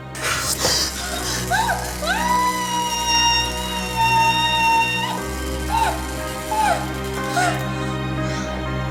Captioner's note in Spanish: Grito ahogado